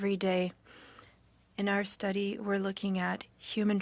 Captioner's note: speaking French